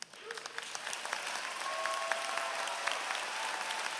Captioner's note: applause